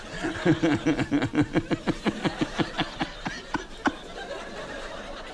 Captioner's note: continues laughing